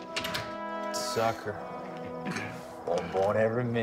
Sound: all chuckling

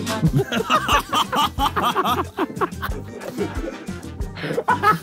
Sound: Ethan and Josh laughing

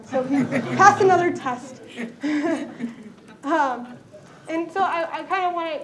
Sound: laughter

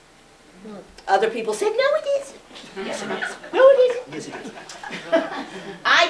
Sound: laughter

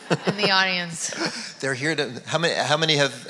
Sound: audience laugh

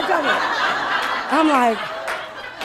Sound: laughing

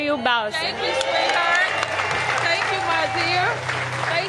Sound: applause

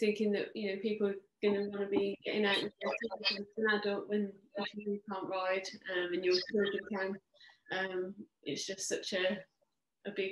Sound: Zoom interference

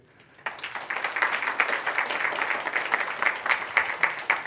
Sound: applause

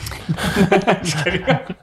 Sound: group chuckles

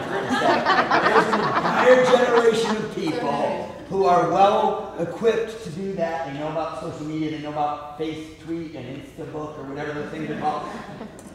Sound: laughter

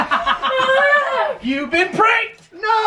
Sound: laughs

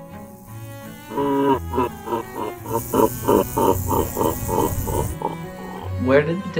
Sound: evil virus laughter

